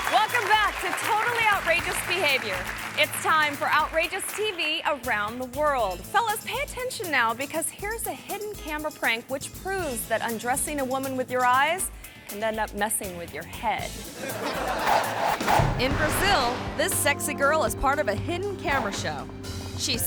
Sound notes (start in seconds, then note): 14.0 audience laughing